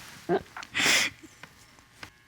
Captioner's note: sobs